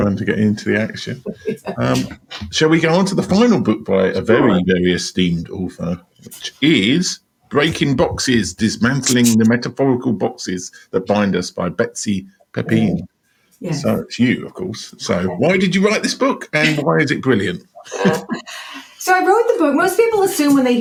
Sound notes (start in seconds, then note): 17.5 laughs